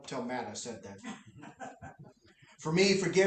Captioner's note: laughter